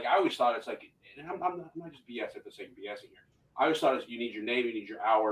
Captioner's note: voice muffling